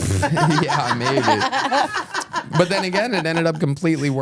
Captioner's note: laugh